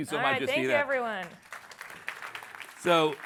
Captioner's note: applause